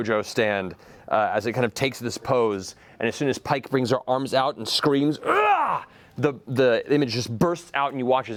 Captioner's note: yells